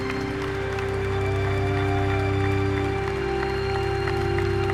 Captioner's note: applause